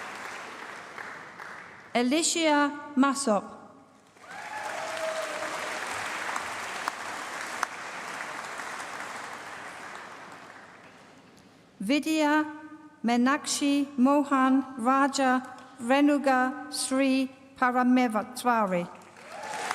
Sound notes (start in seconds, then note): 0.0 applause; 4.0 applause